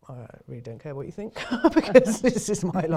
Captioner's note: chuckles